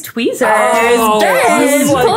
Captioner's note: bell ringing